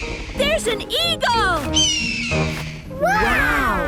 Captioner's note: eagle shriek; eagle shriek